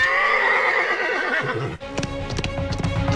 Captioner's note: horse neighing; horse galloping